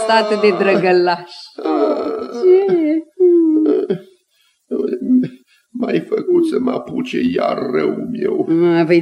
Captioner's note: complains